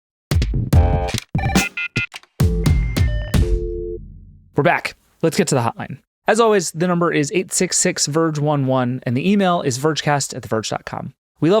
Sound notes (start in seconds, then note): 0.3 jaunty music; 3.6 dial tone trilling